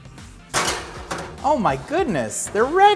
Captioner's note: jazzy music; pan clatters